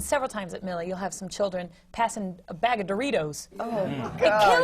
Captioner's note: groans